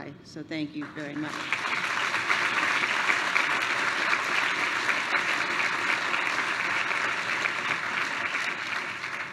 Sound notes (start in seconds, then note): 0.7 applause